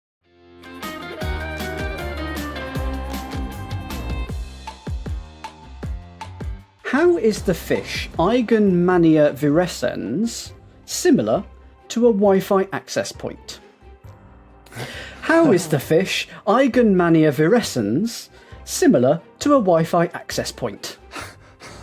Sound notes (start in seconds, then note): 14.7 chuckles; 21.1 laughs